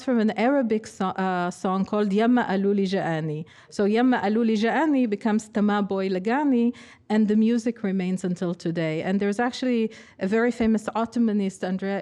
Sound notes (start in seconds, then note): 2.2 speaking arabic; 5.6 speaking hebrew